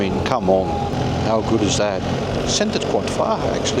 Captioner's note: drone